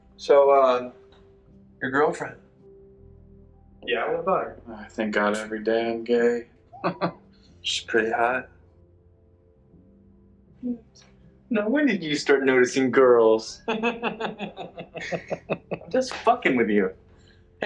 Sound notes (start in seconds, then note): 4.7 laughs; 13.7 Alex laughs loudly